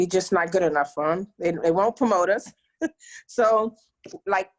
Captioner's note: laughs